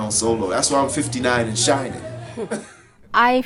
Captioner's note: laughs